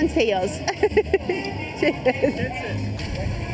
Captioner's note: laughing